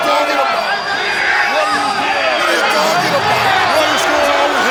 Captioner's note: Hogan speaks faintly